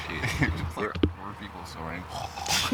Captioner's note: laughter